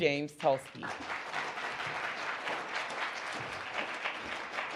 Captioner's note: audience applauding